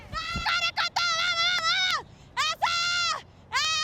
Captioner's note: shouting continues